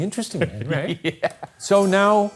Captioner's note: laughs